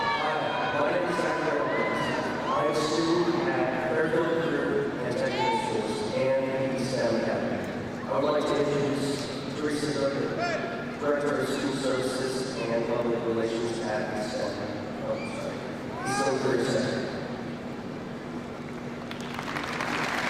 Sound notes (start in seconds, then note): 16.0 crowd cheering